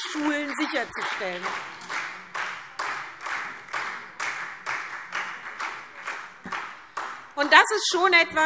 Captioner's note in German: Beifall SPD